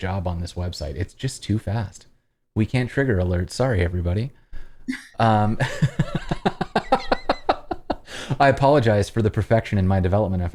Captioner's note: laughter